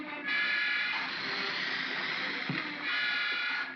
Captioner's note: ominous music; crocodiles hiss; ominous music